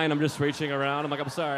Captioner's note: audience laughing